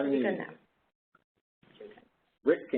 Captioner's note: 2 seconds pause